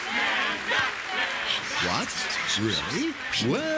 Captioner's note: whispering